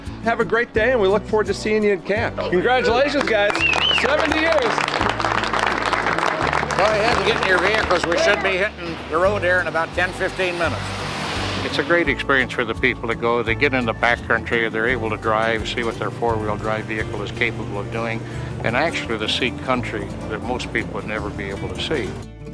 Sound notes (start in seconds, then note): 2.8 crowd applauds